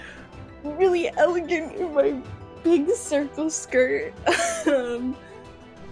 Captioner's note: laughter